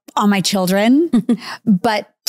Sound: giggling

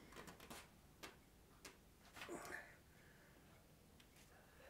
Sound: artwork rustling

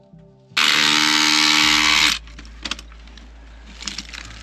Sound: buzzing drilling

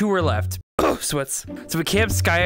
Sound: cough

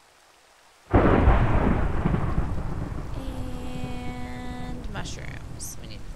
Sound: thunder

